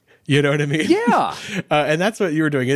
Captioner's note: laughs